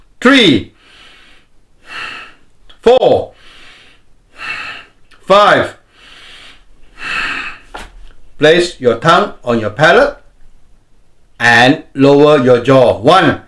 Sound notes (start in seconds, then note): 0.8 exhales; 1.8 inhales; 4.2 exhales; 4.3 inhales; 5.8 exhales